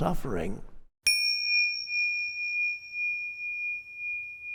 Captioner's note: bell rings